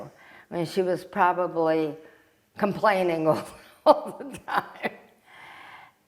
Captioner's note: laughing